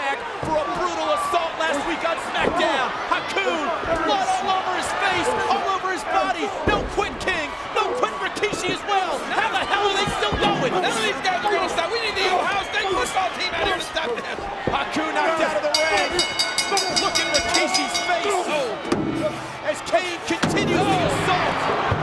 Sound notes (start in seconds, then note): 15.6 bell ringing